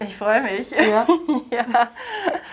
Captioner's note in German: lacht